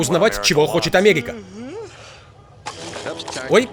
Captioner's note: <i>yawning</i>